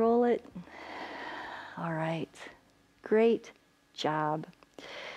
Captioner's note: inhales; exhales